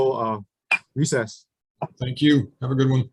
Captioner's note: sounding gavel